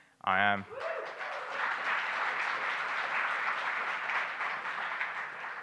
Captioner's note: audience applauding